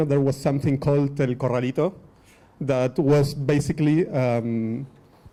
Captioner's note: speaking foreign language